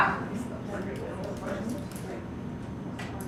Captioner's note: background Discussion